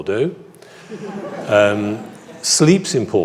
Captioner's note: audience laughs